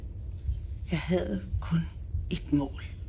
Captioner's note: none